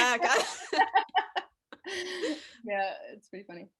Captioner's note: they laugh